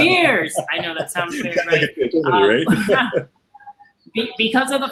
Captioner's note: laughter